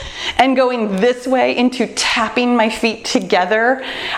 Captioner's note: none